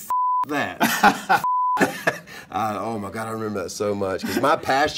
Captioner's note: laugh